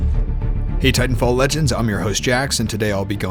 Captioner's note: epic music; voiceover